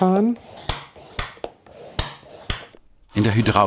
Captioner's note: tacking noises